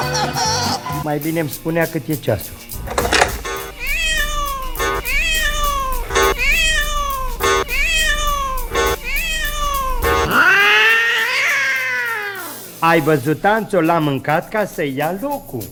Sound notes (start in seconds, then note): 3.5 cat meowing